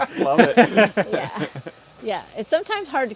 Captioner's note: laughter